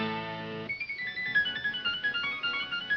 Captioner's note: none